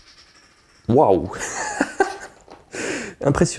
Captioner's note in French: pschtt bruyant